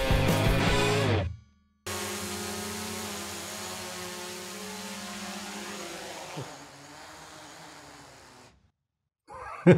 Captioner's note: drone sound; laughing